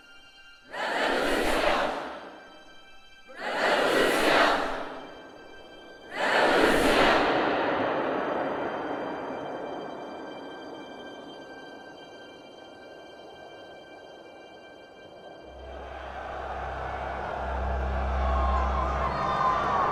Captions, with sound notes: Revolution. Revolution. Revolution. (crowd cheering)